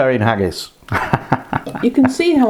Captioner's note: laughs